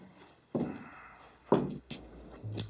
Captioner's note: steps approaching